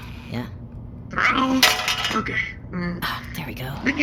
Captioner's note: gear falls out with a clank